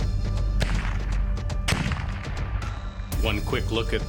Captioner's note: gun firing